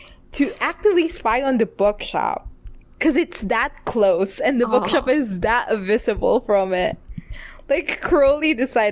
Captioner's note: laughs